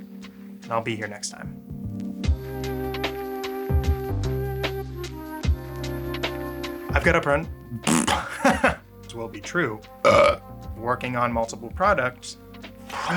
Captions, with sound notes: I'll be here next time. I've got a- *laughs*. will be true *burps*. working on multiple products. I